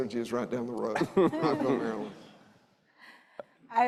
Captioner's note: audience laughing